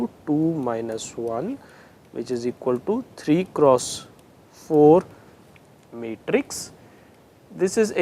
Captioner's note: interference